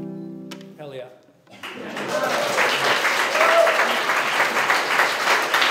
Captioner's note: cheering and applause